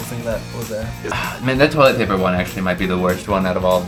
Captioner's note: sighs